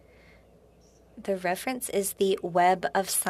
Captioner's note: speaking French